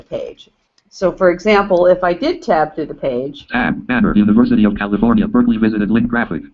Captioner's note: JAWS speaking